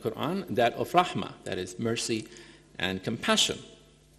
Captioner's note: speaking in foreign language